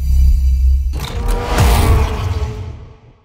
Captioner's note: woosh; vroom